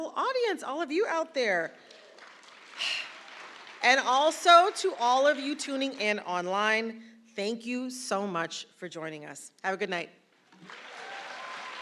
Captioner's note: applause